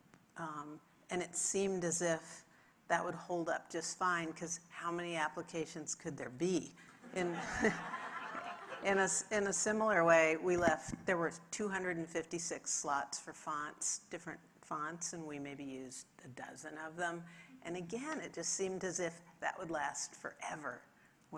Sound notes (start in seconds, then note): 7.3 audience laughing